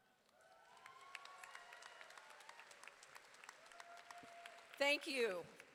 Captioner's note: audience applauding